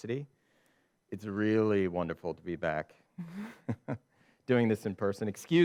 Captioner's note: chuckles